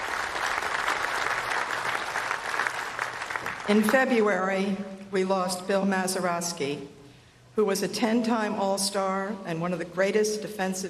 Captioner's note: applause